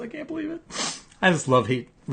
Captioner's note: sniffs